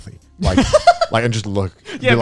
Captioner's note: chuckling